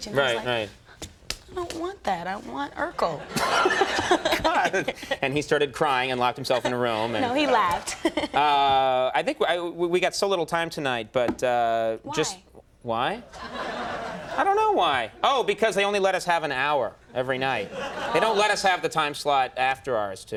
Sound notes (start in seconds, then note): 3.0 laughing; 3.4 Conan laughing